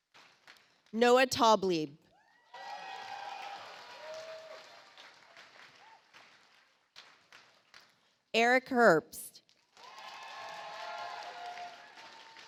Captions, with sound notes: Noah Taublieb. (audience applauds) Eric Herbst. (audience applauds)